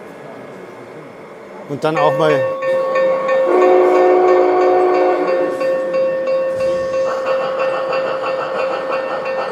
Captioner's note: bell, horn